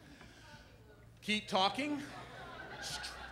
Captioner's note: brief laughter